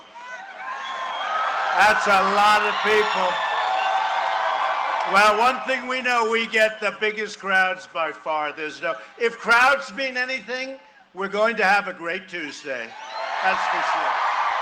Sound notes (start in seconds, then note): 4.0 cheering and applause